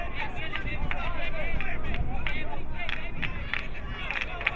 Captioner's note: crowd muttering